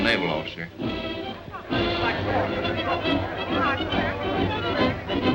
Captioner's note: audience chatters